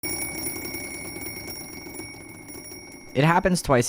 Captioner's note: alarm bell ringing